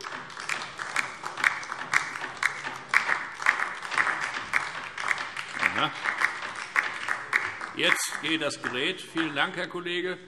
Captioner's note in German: Beifall DIE LINKE